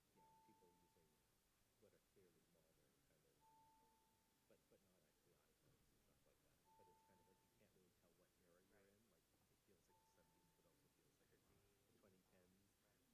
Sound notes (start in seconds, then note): none